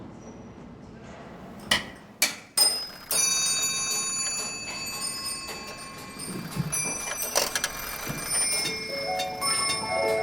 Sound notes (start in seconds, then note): 2.6 jingling and ticking noise; 9.9 cheerful music